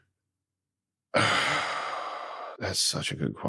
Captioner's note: dr. jacob lentz sighs